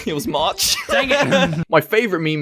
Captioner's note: laughs